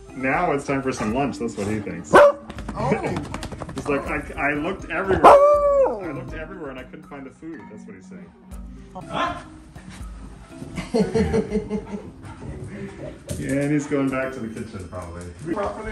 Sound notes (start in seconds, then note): 2.1 bark; 5.1 bark and howl